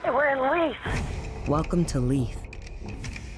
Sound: voiceover; suspenseful music

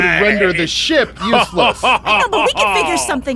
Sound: laughs

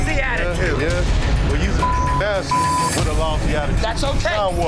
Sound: beep

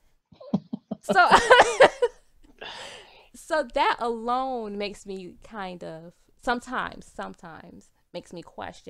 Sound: both laughs

